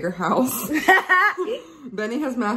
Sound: laughs loudly

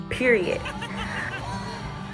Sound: laughter

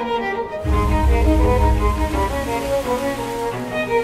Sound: water splashing

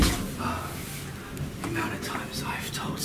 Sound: grunting, out of breath

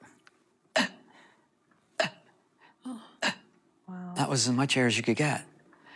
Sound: labored breathing

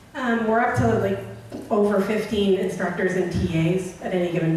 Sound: voiceover

